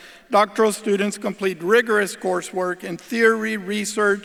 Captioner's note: none